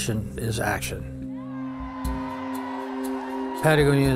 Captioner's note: people yelling